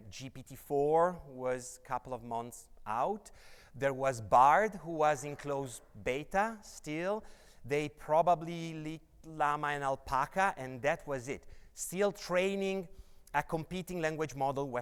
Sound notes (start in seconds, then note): none